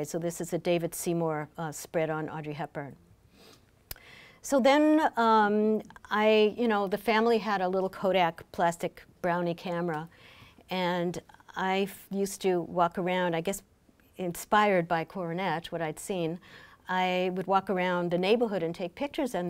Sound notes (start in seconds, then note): none